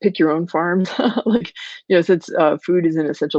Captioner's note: laughing